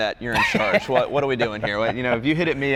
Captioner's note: laughs